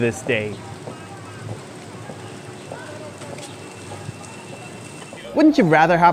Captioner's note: ambient noise, cameraperson's footsteps, bicycle gear sounds